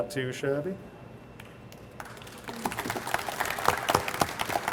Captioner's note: audience applauds